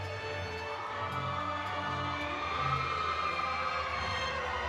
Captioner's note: audience cheering